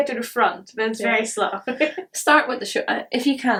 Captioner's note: chuckles